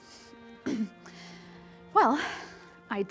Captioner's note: Rosemary clears throat